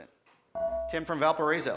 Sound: buzzer

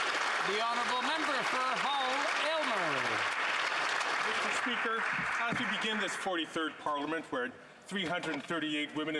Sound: some Applause

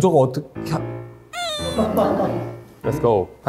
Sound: crying

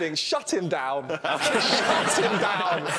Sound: laughing

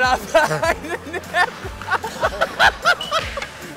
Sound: laughing

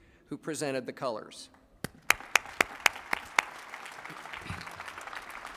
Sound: applause

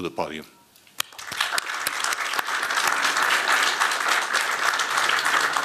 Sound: applause

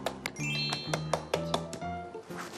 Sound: tapping it

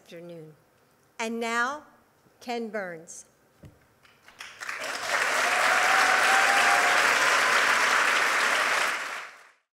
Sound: applause

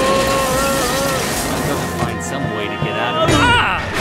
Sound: screams; Henry screams

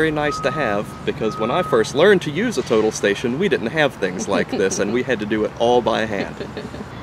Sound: chuckles

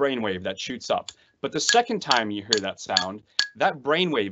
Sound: pen tapping

